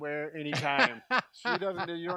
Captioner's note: laughing